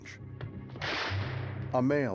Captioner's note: gunshot